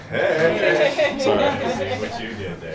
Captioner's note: all laughing